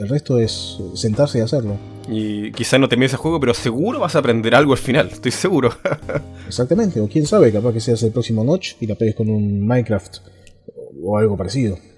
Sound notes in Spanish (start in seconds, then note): 5.6 risas